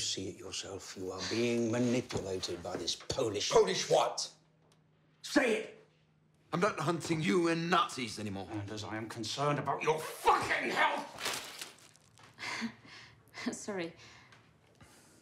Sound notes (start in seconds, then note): 12.0 chuckles